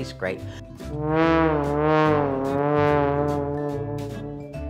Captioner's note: wonky sound effect